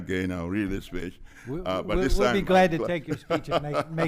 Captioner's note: laughs